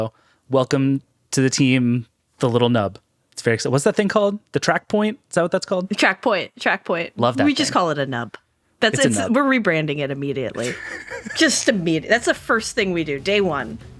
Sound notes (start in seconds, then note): 10.5 laughing